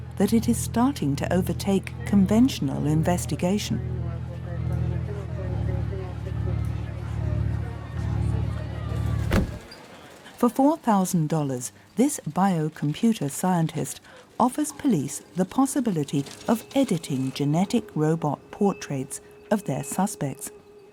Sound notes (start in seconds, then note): 4.2 chatter on radio